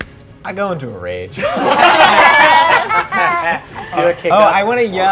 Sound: players laughing

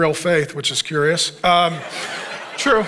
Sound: congregation laughing

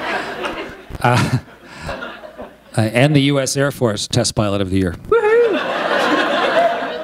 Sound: laughter

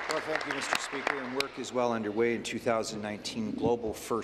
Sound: applause

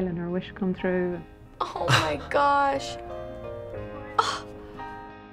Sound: exclaiming

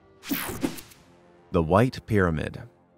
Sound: picture swooshes

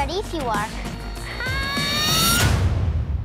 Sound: screams

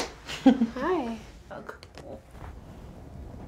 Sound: light Laughter

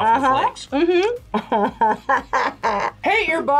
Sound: laughs

